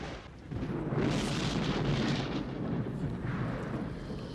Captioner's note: thunder